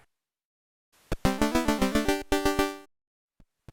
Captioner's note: jaunty C64 sound effect